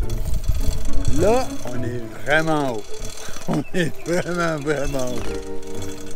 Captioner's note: laughing